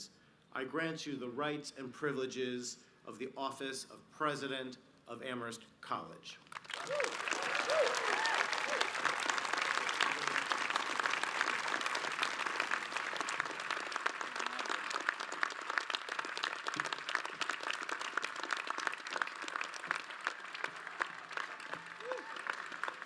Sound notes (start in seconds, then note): 6.3 audience applauds